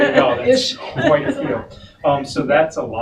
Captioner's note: laughing